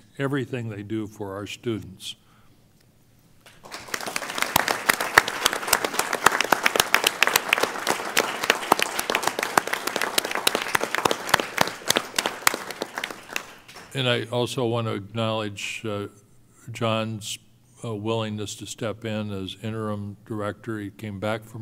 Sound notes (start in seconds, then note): 5.2 applause